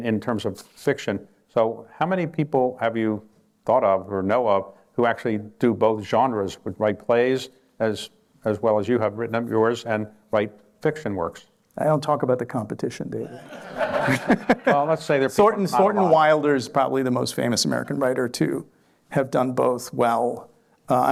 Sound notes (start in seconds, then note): 13.2 laughter